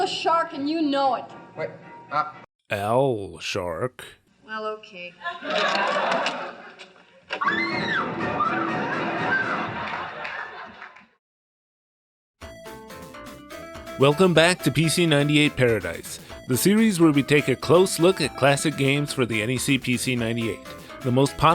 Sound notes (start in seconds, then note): 7.4 screams